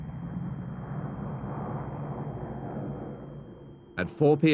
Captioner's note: plane engines rumbling